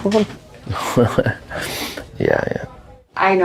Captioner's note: laughter